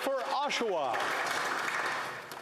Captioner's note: some Applause